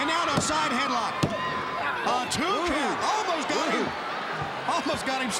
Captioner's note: countdown thudding